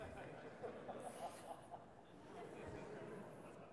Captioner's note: audience laughs